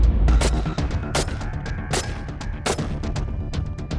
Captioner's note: gun firing